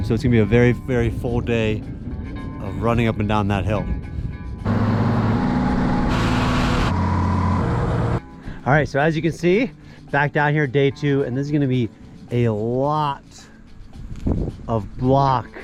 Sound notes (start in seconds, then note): 4.6 truck rumbling; 4.6 upbeat music